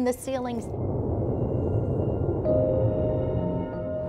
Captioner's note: rumbling